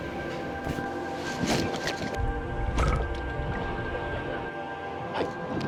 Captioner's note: sound of peeling the anglerfish skin